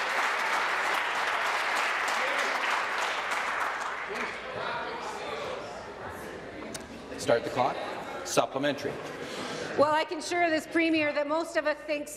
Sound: some Applause

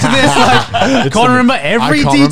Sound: everyone laughs

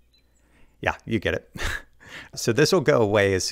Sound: chuckling

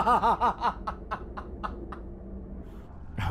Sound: laughs

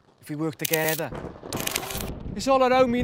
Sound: thunder rumbling

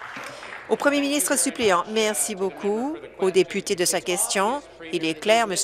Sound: applause

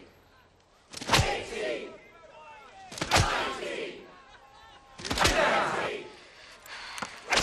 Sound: crowd

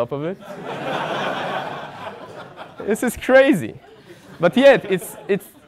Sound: laugh

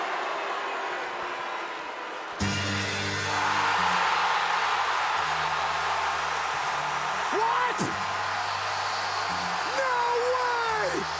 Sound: cheering and Applause

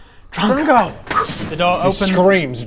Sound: poof

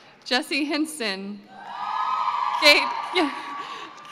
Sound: cheering

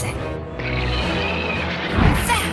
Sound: roar

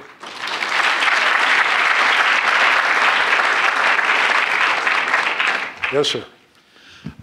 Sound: applause

